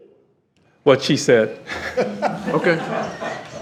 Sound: all laughing

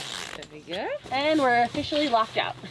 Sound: conversing quietly

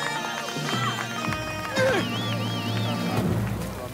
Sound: bagpipes; grunt

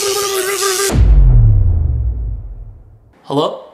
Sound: stammering and electricity static; booming

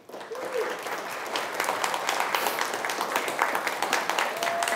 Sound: applause

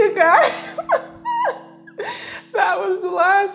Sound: laughs

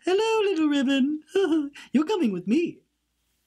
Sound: giggles

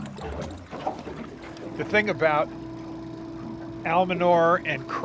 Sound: winch motor whirring

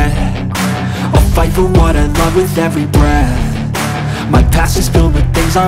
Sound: breath

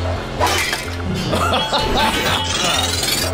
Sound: laughing

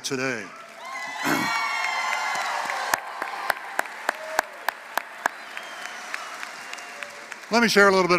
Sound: applause

